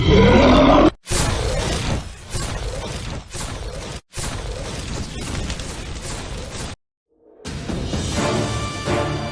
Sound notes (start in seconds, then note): 1.2 massive Explosions; 7.4 adventurous Music